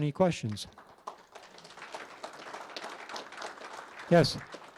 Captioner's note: audience applauds